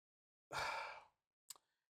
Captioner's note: sighs